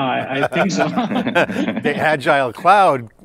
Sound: laughing

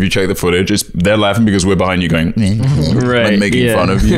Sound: mocking

